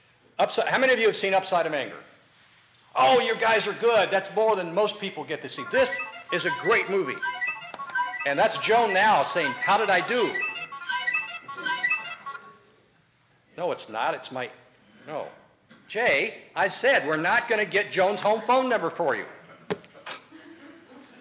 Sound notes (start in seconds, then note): 5.6 phone rings